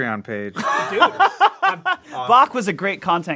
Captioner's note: laughs